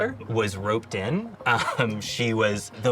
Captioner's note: laughs